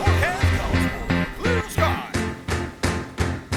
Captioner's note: spacecraft whooshing; dramatic music